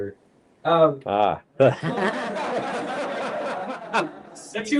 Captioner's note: laughter